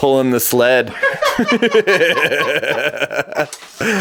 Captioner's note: laughing